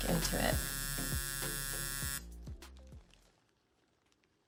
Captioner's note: tattoo needle buzzing